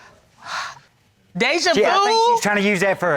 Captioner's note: sighs